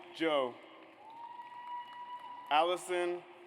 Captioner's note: audience applauds